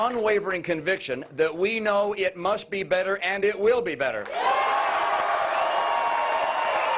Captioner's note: cheers and applause